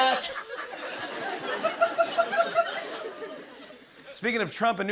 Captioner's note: laughter